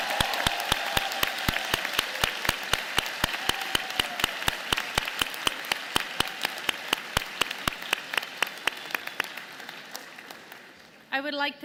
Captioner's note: applause